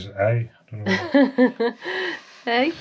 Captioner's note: laughs